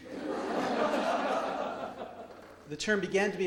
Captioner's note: audience laughs